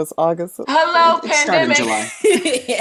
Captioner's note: laughs